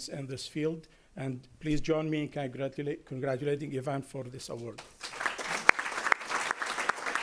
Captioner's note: applause